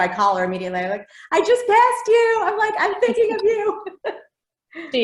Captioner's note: laughs